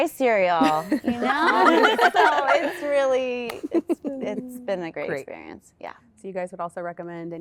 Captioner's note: laughter